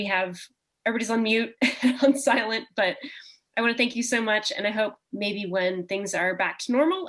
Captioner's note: chuckle